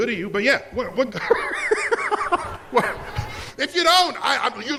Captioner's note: laughs